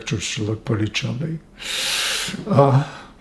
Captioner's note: laughing